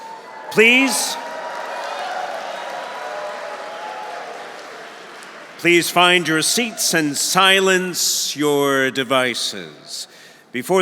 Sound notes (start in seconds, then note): 0.0 audience cheering; 0.0 audience applauding